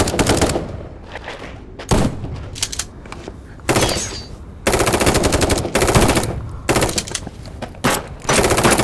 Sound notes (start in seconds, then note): 2.6 gun cocking; 3.7 guns firing